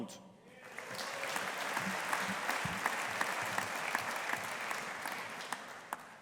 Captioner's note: audience applauding